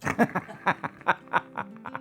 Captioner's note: laughs